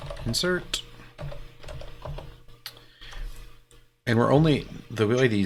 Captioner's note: keyboard keys clanking